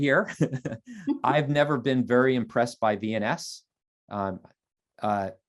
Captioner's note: laughter